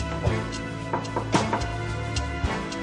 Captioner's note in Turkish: kapıyı tıklatıyor